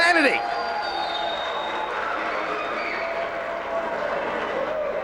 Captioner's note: spectators cheering